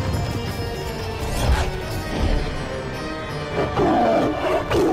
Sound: conch blows

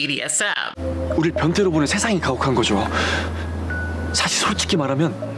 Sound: speaking Korean

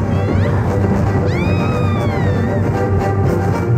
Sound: screams

